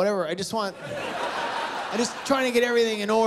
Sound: laughter

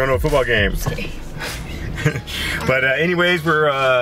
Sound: laughing

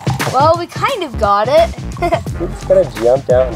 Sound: laughs

